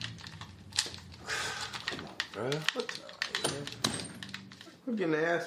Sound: game controllers clicking; sighs

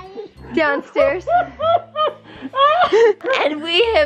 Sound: laughing

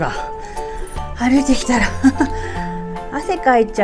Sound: laughs

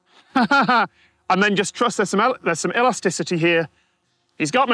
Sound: titters

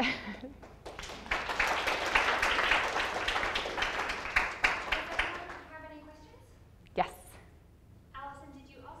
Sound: audience applause

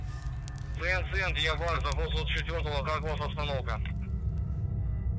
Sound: radio exchange

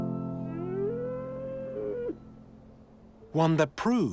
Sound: yak bleats

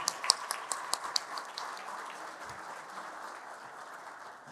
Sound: applause

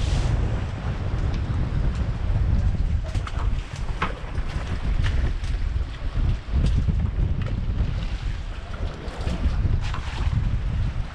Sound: clanking

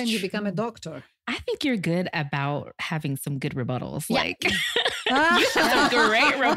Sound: laughter

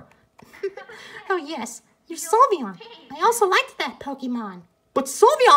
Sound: giggles

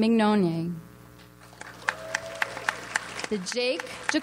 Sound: audience applauds

